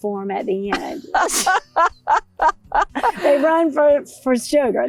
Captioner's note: laughs